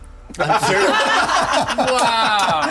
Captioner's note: everyone laughing